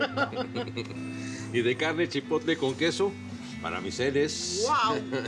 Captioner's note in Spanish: Risas